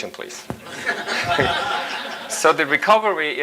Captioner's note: audience laughs